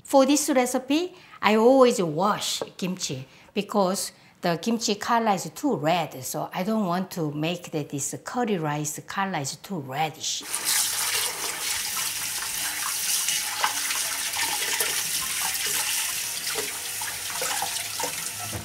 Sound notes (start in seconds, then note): 10.4 water running